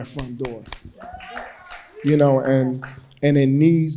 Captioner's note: crowd cheering